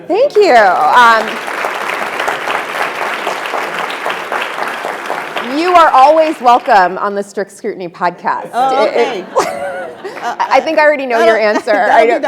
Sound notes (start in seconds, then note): 0.4 attendees applauding